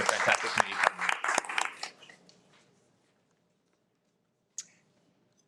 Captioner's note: participants applauding